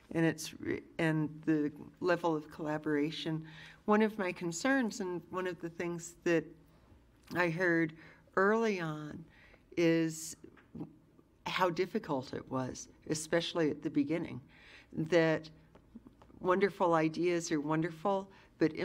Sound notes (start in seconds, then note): none